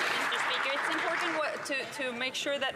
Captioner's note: some Applause